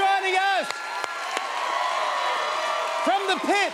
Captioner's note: cheers and applause